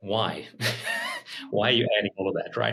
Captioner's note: chuckles